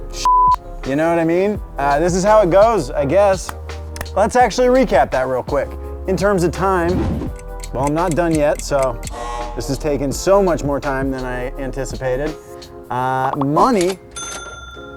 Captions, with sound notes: (beep) you know what I mean? This is how it goes, I guess. Let's actually recap that real quick. In terms of time (air whooshing) well, not done yet, so this has taken so much more time than I anticipated, money,